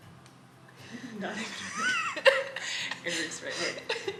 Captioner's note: all chuckling